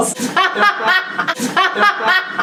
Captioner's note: laughs loudly